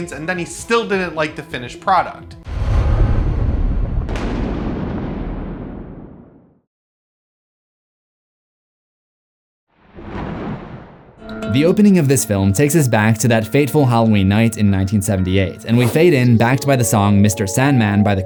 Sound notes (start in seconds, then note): 11.5 thunder; 11.5 eerie music